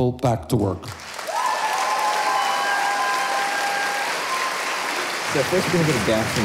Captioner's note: audience cheers and applauds